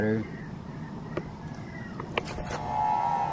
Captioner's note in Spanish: sonido misterioso